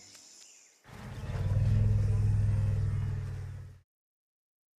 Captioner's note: rumbling